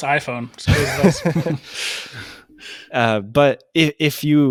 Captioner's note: both laughing